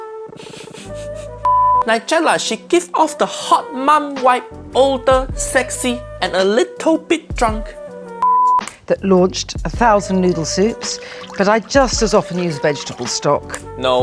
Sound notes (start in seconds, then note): 0.3 laughing; 1.4 signal beeping; 8.2 signal beeping; 10.3 water splattering